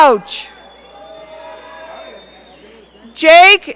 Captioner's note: audience cheering